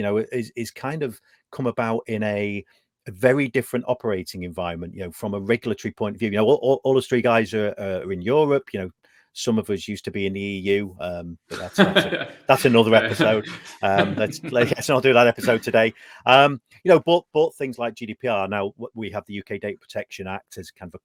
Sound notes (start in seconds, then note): 11.5 laughs